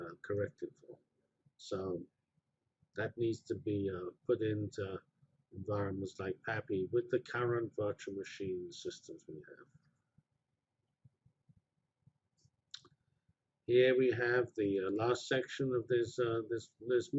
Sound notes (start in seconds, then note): 10.3 pause